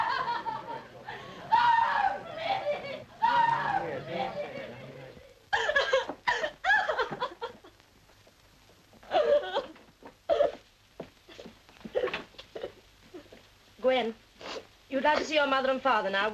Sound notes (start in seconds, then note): 1.4 wails; 4.6 Gwen wailing; 6.3 sobbing